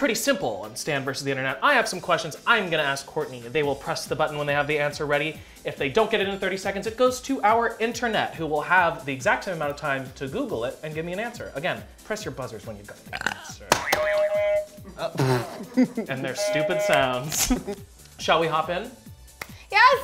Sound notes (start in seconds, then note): 13.0 burps; 14.1 buzzers beep